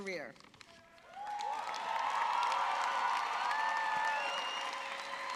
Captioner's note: audience cheering